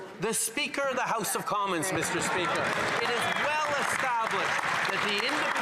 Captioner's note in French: voix de l'interprète